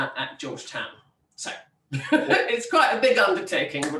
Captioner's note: laughs